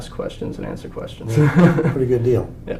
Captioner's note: laugh